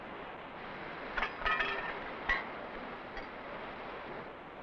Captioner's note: metal clattering